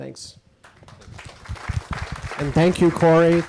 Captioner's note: audience applauding